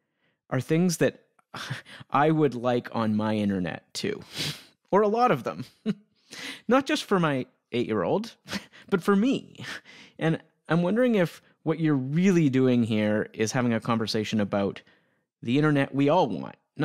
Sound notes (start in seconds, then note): 5.8 chuckling